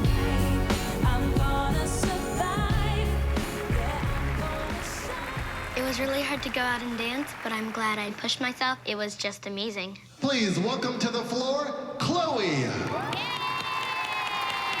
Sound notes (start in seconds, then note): 2.9 applause; 12.8 cheering